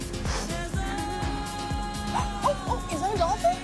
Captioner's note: gasp